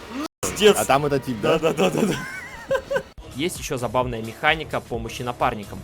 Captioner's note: laughs